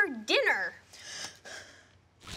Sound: gasping

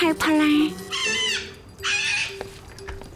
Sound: parrot squawking

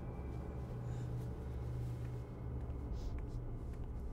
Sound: raspy breathing

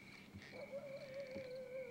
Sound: dog barking in distance

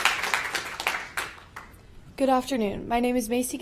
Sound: applause

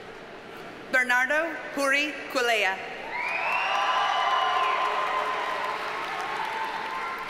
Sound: audience cheers and applauds

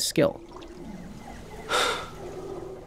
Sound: breathes out

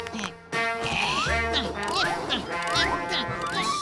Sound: grunting

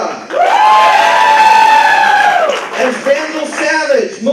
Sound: applause

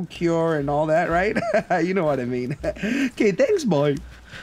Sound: laughs

